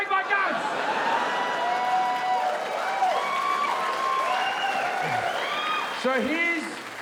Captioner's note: audience cheering; audience laughing